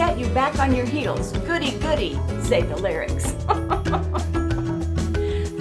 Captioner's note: giggle